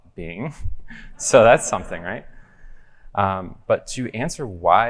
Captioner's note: crowd laughing